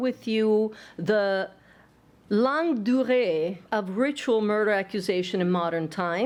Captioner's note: non-english speech